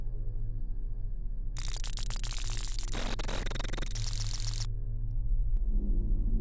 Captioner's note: high-pitched rapid zipping